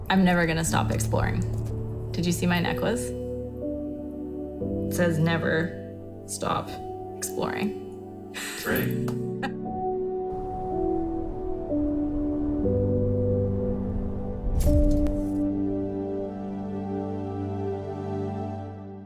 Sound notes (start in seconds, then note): 8.2 laughs; 10.4 calm music